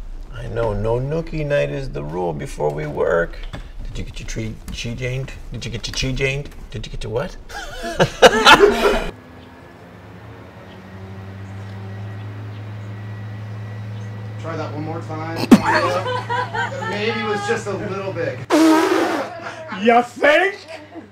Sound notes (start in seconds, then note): 7.5 raucous Laughter; 9.4 lawn Mower and Leaf Blower in the distance; 15.4 laughter; 18.5 spit take sound